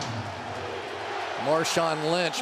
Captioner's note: crowd chanting "defense"